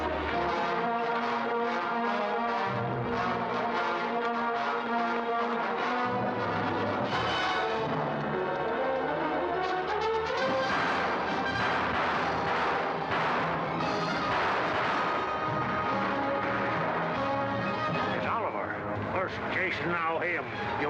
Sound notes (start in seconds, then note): 0.2 dramatic music; 10.3 gunfire; 10.7 dramatic music